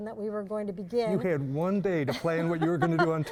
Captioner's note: laughs